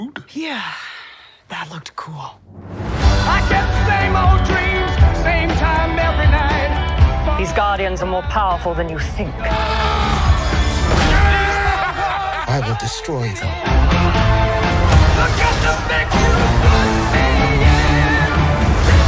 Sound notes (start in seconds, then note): 9.4 screaming; 11.2 laughing